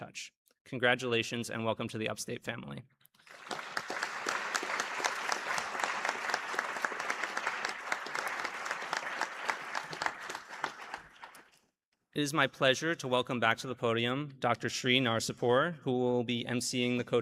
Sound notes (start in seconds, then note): 6.1 applause